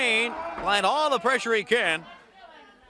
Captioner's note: crowd chatter